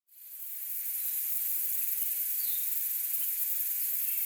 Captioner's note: birds and bugs chirping